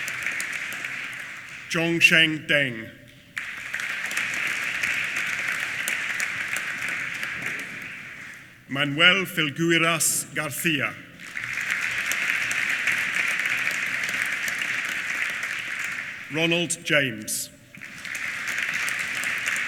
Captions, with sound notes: Zhongsheng Deng. (APPLAUSE) Manuel Filgueiras Garcia. (APPLAUSE) Ronald James. (APPLAUSE)